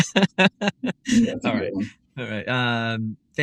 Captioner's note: laugh